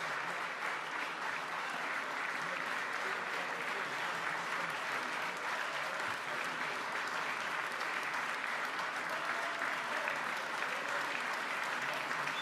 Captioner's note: applause